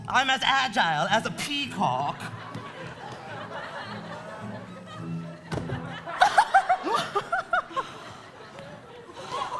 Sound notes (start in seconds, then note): 2.0 audience laughing; 6.1 Elsa and Anna laugh